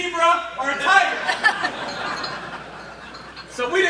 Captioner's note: laughter